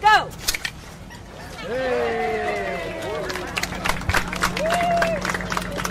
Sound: cheers and applause

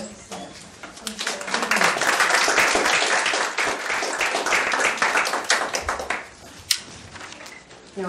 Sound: applause

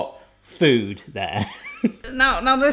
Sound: chuckle

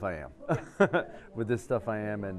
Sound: laughs

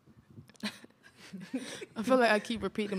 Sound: laughter

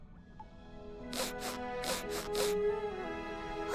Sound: sniffing

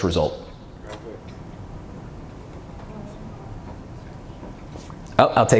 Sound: murmuring from audience

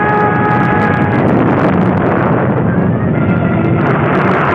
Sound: explosion roaring

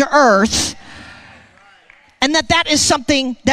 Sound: congregation applauding

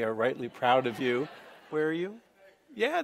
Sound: laughing

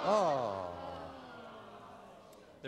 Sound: audience oh

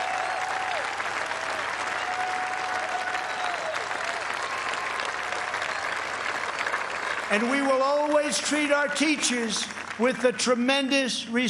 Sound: cheers and applause

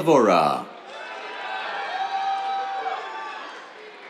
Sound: cheers, applause

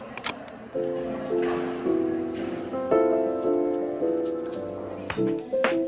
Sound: light airy music; camera clicks

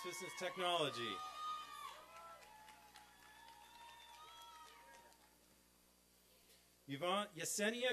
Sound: applause and cheering

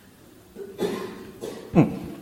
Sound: audience member coughs

